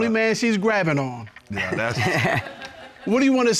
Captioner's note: chuckles